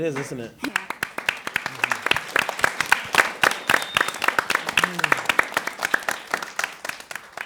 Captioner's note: applause